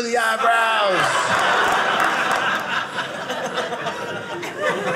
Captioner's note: audience laughing